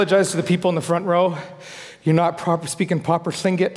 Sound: foreign speaking

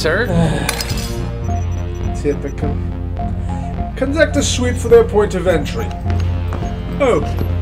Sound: sigh

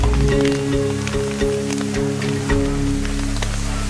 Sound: fire burns

